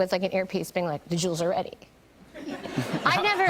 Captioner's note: laughter